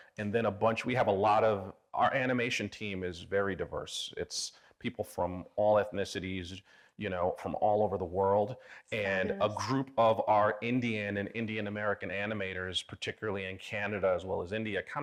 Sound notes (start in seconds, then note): none